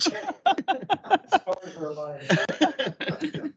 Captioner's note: laughing